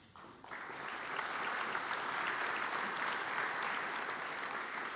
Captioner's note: audience applauds